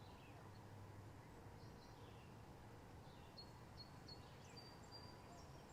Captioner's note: birds chirping